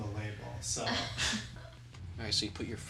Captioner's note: Angelina chuckles